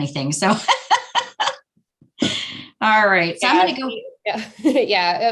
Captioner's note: laughing